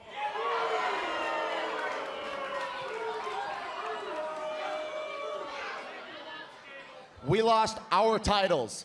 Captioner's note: cheers and boos